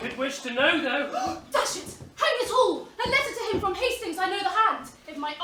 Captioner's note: gasps